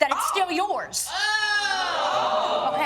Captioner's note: audience jeering